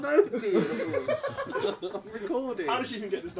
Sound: laughing

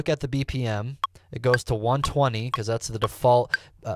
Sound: metronome ticking

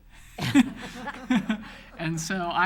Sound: all laughs

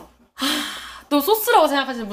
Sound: sighing

